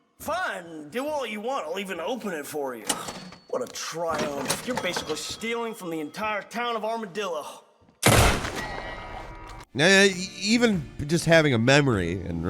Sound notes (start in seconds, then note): 8.0 gunshot